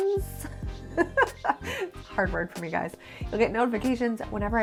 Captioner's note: laughs